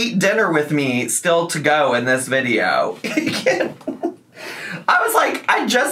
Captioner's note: laughs